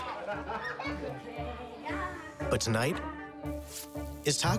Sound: laughter

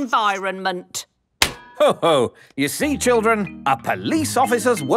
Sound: slaps

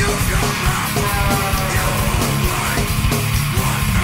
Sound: truck honking

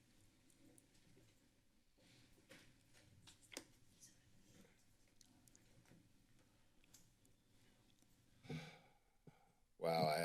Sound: silence

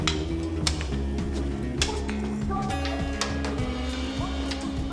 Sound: shouting continues

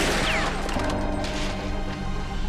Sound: gunshot

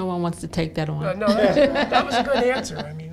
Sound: laughter

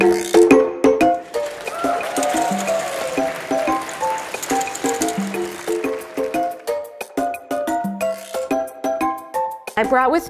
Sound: audience clapping

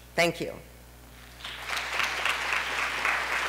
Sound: applause

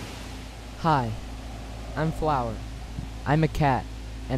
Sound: wind blowing

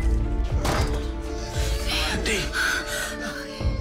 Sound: breathing heavily

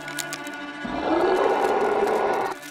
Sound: CREATURE roars

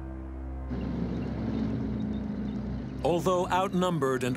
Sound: tank rumbling

